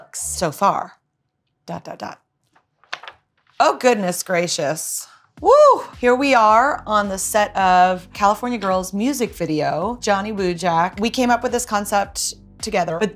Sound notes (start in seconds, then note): 2.5 book page turning